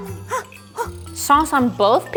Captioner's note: gasping